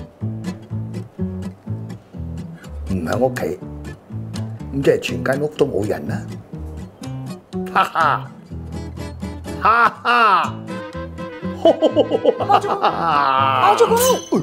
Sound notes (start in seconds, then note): 7.6 laughing